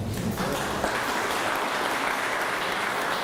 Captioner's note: applause